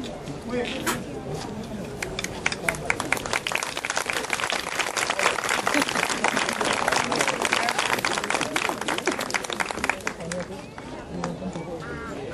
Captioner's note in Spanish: aplausos del público